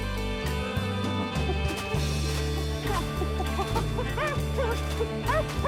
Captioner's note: Hatfield hoots incoherently